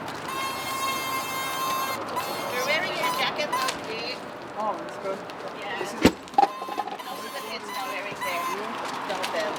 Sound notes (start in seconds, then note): 4.7 crew chattering